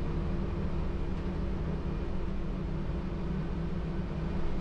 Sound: bus engine rumbles

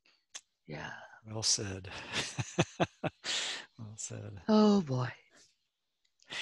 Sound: risos

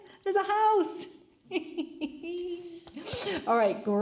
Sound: laughs

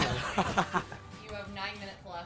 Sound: laughs

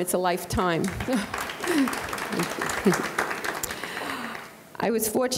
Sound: audience clapping

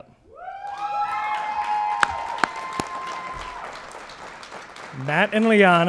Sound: cheering and Applause

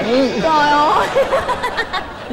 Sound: laughing

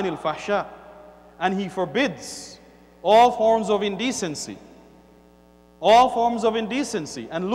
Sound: Arabic

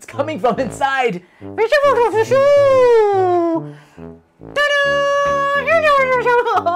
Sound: speaking elvish

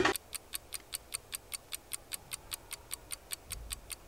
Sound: timer ticking

